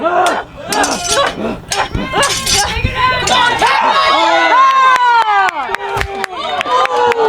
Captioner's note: swords slashing; audience jeering